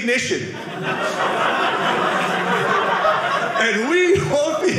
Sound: audience laughing

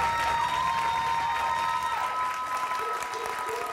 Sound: cheers

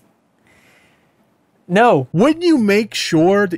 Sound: sigh

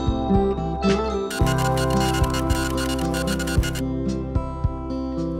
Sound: scratching noise

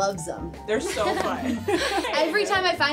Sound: laughing

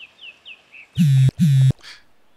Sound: phone vibrates

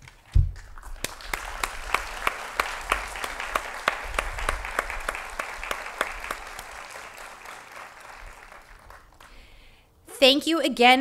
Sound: applause

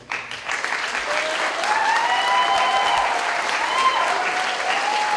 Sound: applause

